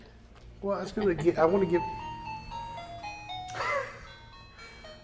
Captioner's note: motion sensor chime; laughs